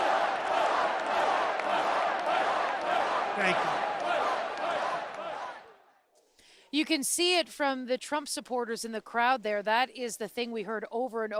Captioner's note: chants